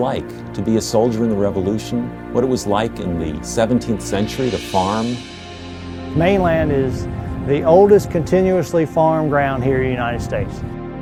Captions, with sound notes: like to be a soldier in the revolution, what it was like in the 17th century to farm. - [Male Voice] Mainland is the oldest, continuously farm ground here in the United States.